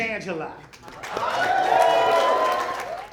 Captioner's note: audience saying "Hallelu"; applause